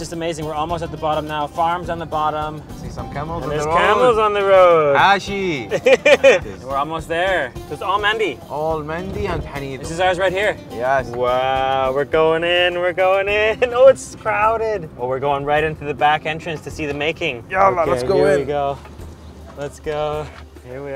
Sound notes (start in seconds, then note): 5.0 exclaims